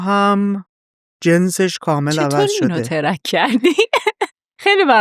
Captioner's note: laughs